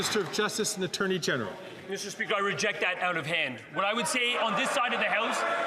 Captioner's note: some Applause